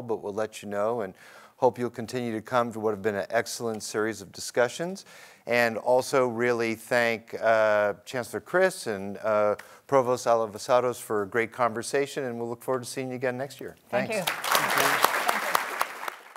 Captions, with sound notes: but we'll let you know and hope you'll continue to come to what have been an excellent series of discussions. And also really thank Chancellor Christ and Provost Alivisatos for a great conversation and we'll look forward to seeing you again next year. Thanks! (applause)